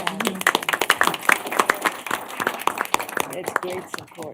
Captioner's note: applause